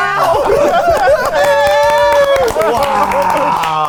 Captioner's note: all laughing and clapping